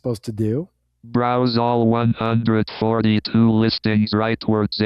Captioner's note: automated Voice